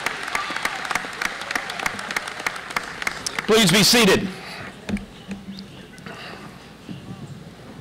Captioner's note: cheering; applause